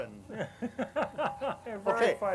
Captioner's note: laughs